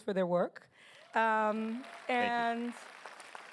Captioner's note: applause